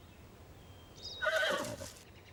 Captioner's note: zebra whinnies